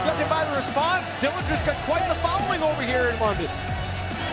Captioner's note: crowd cheering